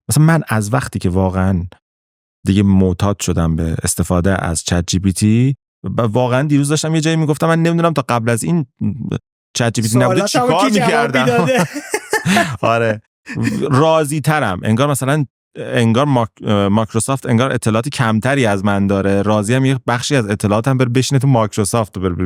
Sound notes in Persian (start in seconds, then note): 9.9 خنده